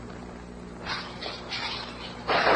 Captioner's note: gunshot